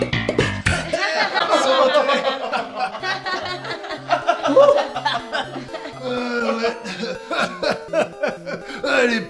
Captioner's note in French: Rires